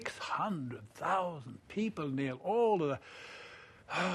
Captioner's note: sighs